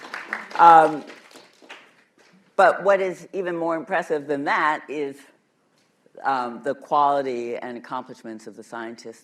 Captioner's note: applause